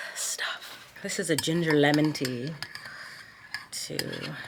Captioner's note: spoon clinking